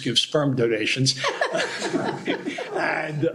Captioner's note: laughter